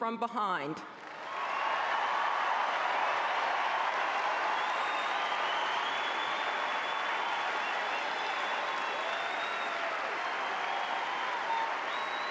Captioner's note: applause